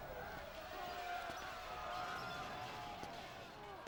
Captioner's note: shouting